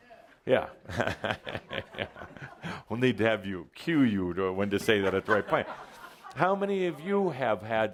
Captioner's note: Adamus chuckles